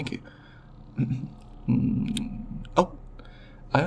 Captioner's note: clears throat